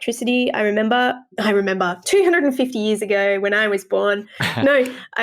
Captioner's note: laugh